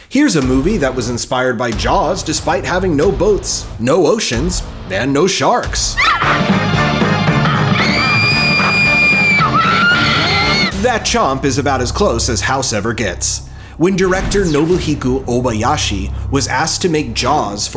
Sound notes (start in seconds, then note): 6.0 yelp; 7.0 screaming